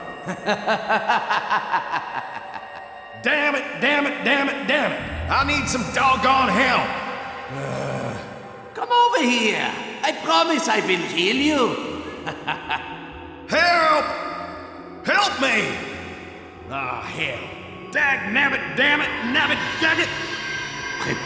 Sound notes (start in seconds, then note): 0.1 long, evil laughter; 7.5 frustrated sigh; 12.2 short laugh